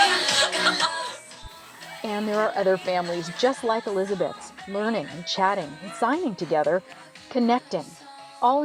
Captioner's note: voiceover